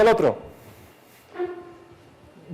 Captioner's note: chair scoots